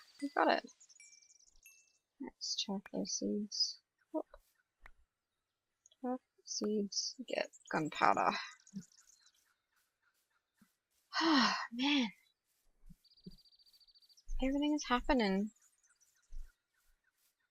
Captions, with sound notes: We got it! Let's chuck those seeds. Whoop. Chuck seeds. Get gunpowder. [sighs] Man! Everything's happening.